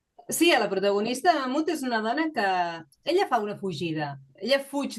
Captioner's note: speaking in Catalan